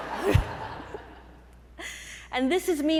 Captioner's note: audience laughing